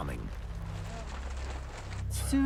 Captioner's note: tarp rustling